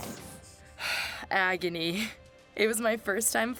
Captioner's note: sigh